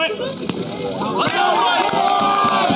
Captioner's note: cheering